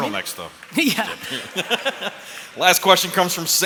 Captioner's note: laughs